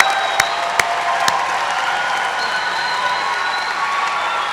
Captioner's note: applause